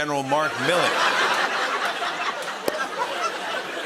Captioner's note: laughter